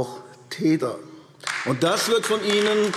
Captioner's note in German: Beifall AfD